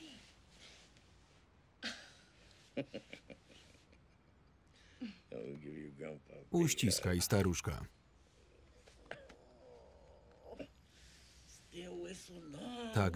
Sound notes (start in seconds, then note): 2.7 laughing; 8.8 sighing